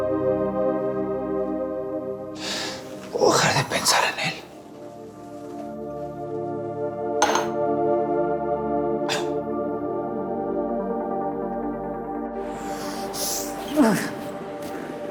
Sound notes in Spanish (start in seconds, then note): 9.1 Quejidos